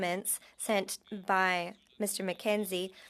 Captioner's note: speaking French